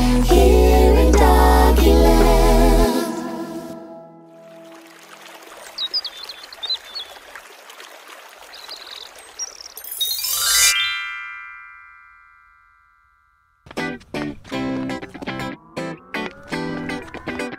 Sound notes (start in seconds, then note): 4.4 water burbling; 5.4 birds chirping